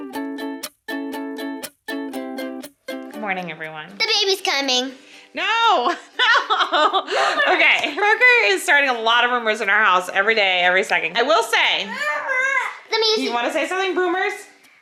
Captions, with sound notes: Good morning, everyone. - The baby's coming. - No! (laughs) Okay. Parker is starting a lot of rumors in our house. Every day, every second. I will say, do you want to say something Boomers?